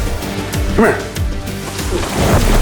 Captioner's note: whistling